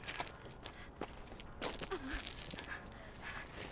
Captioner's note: Nyah panting